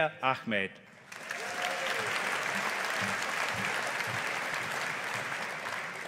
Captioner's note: audience applauding